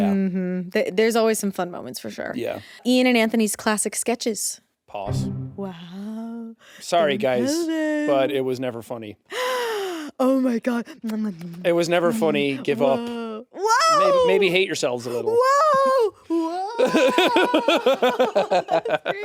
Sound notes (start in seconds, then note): 9.3 gasps; 16.6 Jacksepticeye laughing